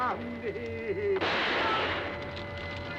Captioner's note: gun firing